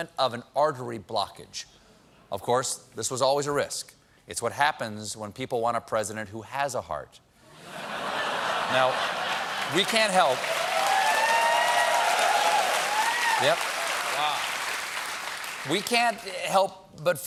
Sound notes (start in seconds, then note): 7.5 laughter; 8.9 cheers and applause